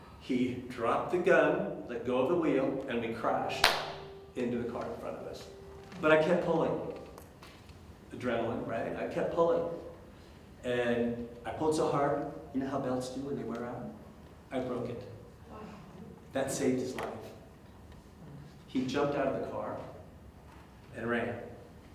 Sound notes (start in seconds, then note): 14.9 audience member gasps